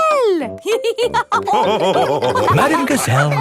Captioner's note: all laughing